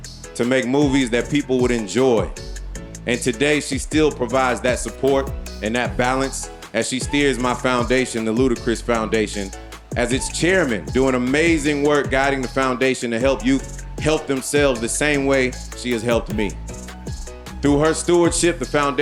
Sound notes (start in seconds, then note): none